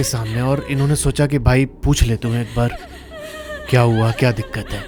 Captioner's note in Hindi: रोने की आवाज़; रोने की आवाज़